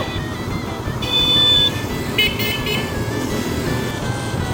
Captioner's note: beeping; woooooooos